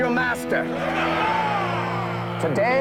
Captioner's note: crowd Roars